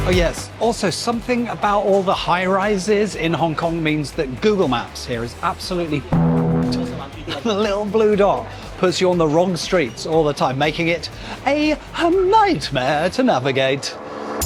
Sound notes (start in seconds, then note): 6.1 beep